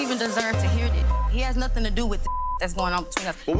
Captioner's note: beeps